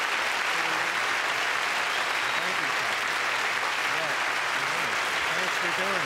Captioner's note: applause